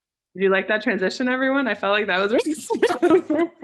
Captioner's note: giggles